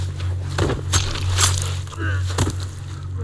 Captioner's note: grunting